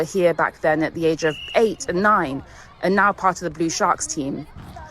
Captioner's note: whistle trilling